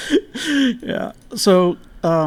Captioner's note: both laughing